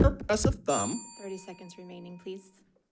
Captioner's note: bell ringing